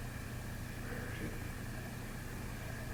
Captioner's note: whispers